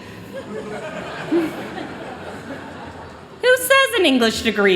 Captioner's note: chuckling